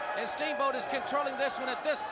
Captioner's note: crowd cheering